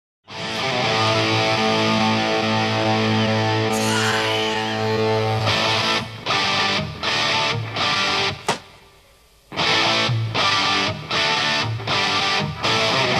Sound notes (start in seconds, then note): 0.2 rock music begins; 8.5 newspaper hits table; 9.5 rock music continues